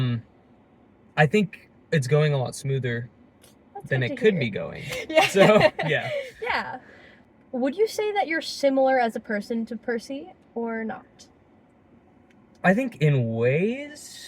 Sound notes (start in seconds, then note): 4.8 laughing